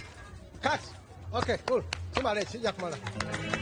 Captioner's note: claps